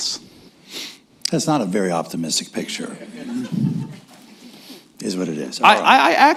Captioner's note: laughter